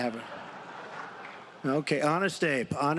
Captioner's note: laughter